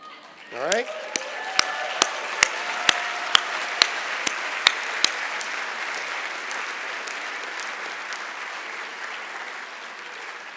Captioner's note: applause